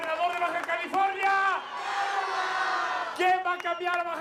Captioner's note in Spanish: gritos y exclamaciones